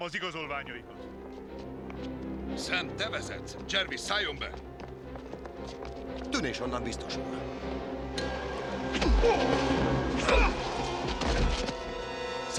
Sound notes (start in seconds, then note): 8.9 grunting